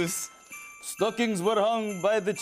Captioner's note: Russian accent